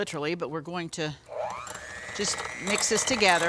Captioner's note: mixer whirs